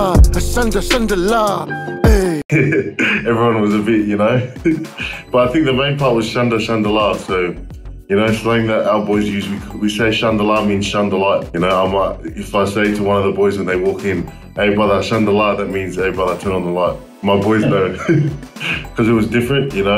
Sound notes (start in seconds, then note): 4.4 laughs